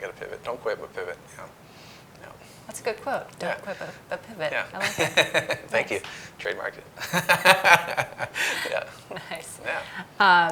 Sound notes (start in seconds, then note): 6.9 laughing